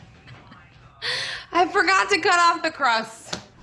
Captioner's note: chuckling